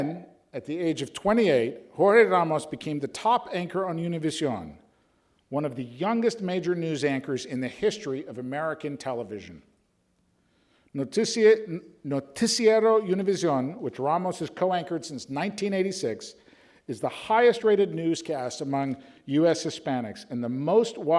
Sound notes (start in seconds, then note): none